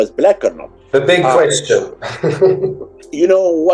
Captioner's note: laughs